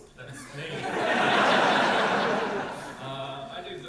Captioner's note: audience laugh